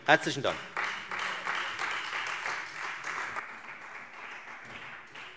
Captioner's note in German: Beifall Freie Demokraten